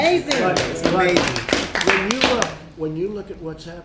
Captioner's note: applause